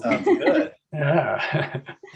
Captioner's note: laughs